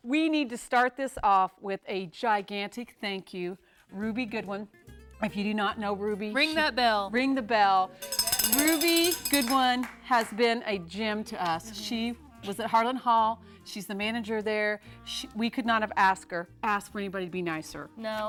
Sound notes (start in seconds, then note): 7.9 bell ringing